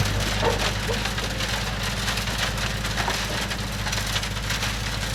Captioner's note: machine noises